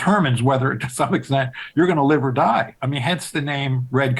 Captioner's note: chuckling